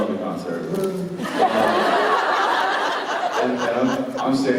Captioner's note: laughter